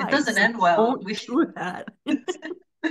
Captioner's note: laughing